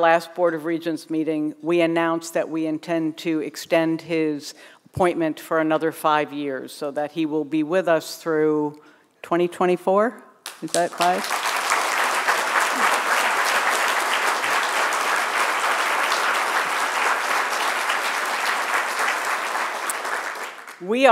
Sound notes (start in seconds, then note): 14.5 applause